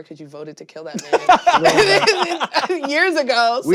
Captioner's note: laughing hysterically